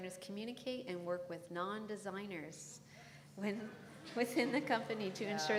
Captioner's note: laugh